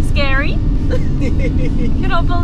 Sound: laughing

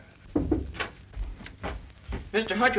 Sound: knocking on door

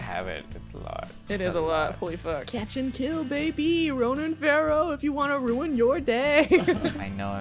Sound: laughs

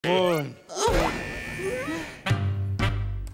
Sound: buzz!

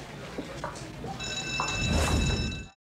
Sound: bell ringing

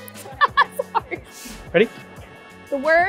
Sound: laughs

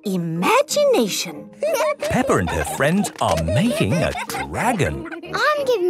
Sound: giggling

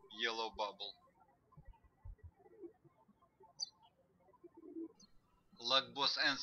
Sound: birds chirping

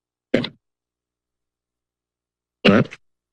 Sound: pause

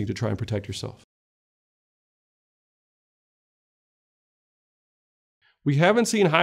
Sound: silence

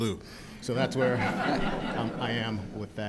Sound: audience laughing

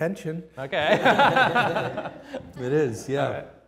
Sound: laughs

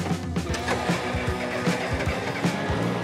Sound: engine starts

